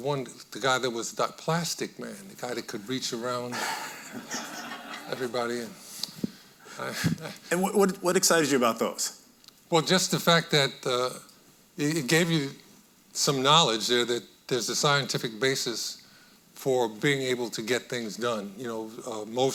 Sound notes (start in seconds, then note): 3.6 audience laughing; 6.8 chuckles